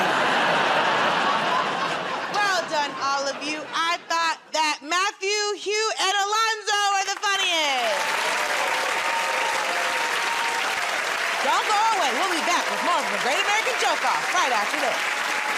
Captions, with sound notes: [ Laughter ] -Well done, all of you. I thought that Matthew, Hugh, and Alonzo were the funniest. [ Cheers and applause ] Don't go away. We'll be back with more of "The Great American Joke Off" right after this.